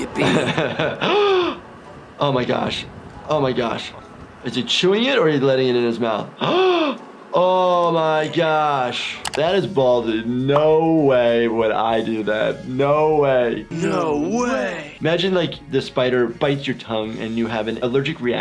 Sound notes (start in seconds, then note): 0.0 laughing; 0.9 gasps; 6.2 gasping